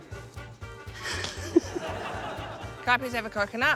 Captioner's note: laughter